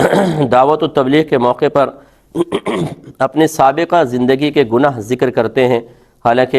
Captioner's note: clears throat